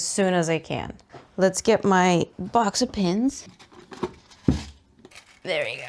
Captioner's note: rummaging noises